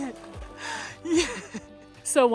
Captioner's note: laughs